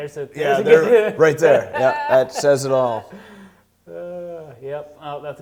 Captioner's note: laughing